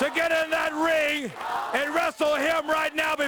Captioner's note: crowd cheering